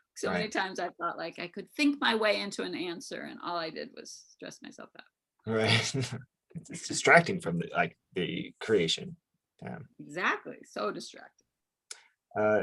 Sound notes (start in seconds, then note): 5.5 chuckles